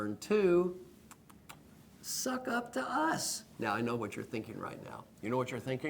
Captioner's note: lip sounds